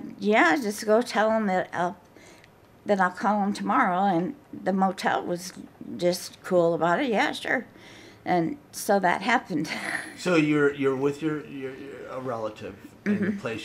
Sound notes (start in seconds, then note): 9.7 chuckles